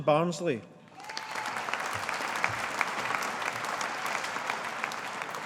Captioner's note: audience applauding